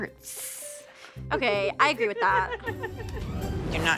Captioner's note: laughing